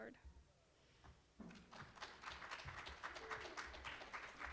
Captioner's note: applause